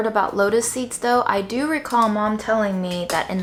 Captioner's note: pot clattering